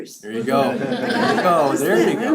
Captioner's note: laugh